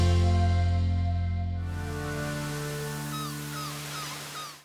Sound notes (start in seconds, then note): 1.8 ocean waves; 2.1 seagulls cawing